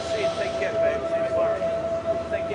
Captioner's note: indistinct chatter